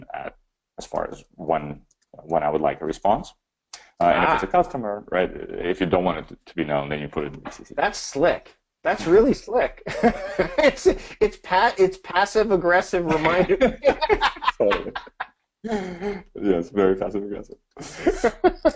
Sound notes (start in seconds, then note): 8.9 laughs; 13.0 both laughing; 17.8 laughs